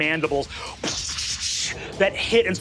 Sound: hissing

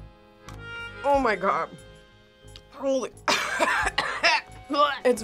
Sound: coughs

